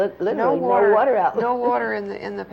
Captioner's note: laughs